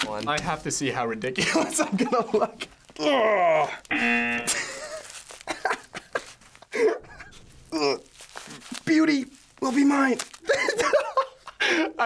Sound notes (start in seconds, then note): 2.9 groaning; 5.4 laughing; 6.8 groaning; 10.2 cracking up